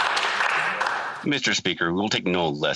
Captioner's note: some Applause